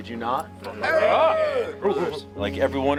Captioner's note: crowd reacts